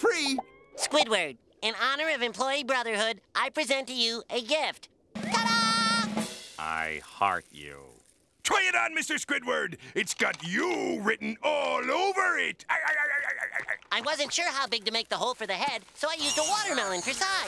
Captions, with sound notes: Squidward, in honor of employee brotherhood, I present to you a gift. Ta-dah! "I heart you." Try it on, Mr. Squidward! It's got you written all over it. [laughing] I wasn't sure how big to make the hole for the head, so I used a watermelon for size.